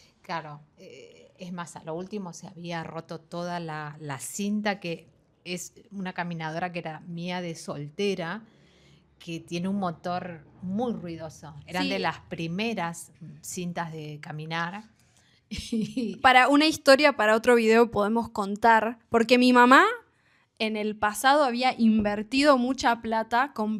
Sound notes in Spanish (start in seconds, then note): 15.5 risas